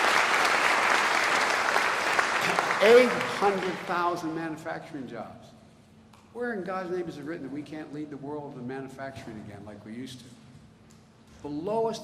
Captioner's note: applause